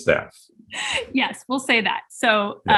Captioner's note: chuckling